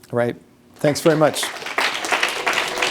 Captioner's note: applause